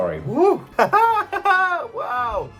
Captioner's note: laughs